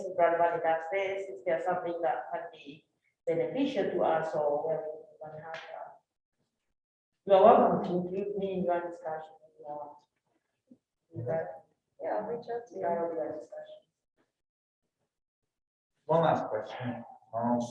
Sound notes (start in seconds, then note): 9.8 speaks faintly